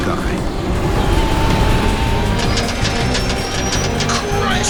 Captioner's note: plane engine roars